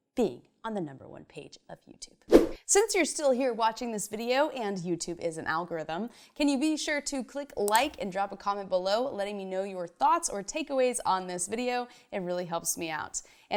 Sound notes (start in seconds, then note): 2.3 fast whoosh; 7.6 mouse clicks